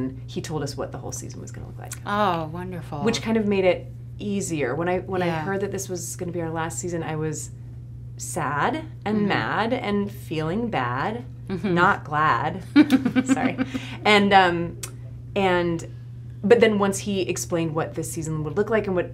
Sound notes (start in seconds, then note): 12.7 laughs